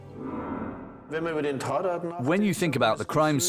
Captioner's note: speaking German